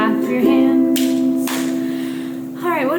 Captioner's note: hands clapping